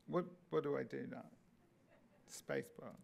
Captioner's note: audience laughing